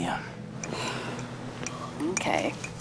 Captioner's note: sighs